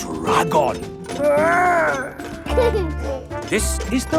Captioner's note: giggles